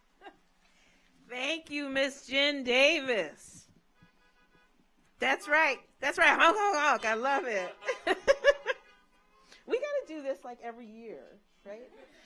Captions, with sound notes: - Thank you, Ms. Jin Davis. (car horns honking) That's right, that's right, honk, honk, honk. I love it. (laughs) (car horns honking) We gotta do this every year, right?